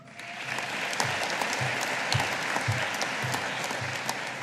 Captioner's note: audience applauding